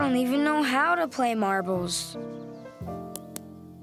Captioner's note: tnuk* sound of marble hitting ground